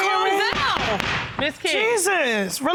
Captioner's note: gavel bangs